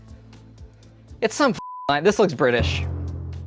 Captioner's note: beep